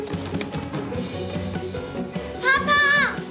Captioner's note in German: Fiepen